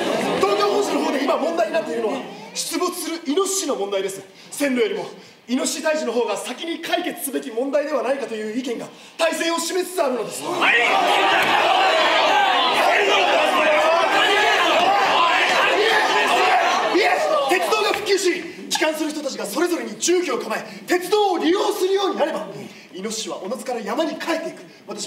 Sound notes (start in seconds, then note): 10.0 voices of protest